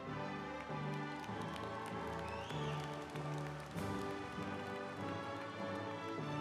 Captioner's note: audience applauding and cheering